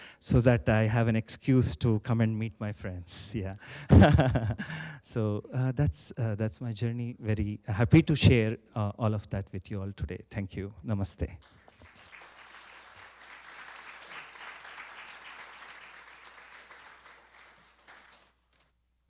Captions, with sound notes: so that I have an excuse to come and meet my friends, yeah. [CHUCKLES] So that's my journey. Very happy to share all of that with you all today. Thank you. Namaste. [APPLAUSE]